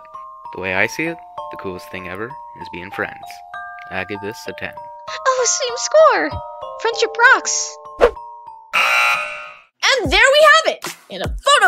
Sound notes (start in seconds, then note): 8.7 buzzer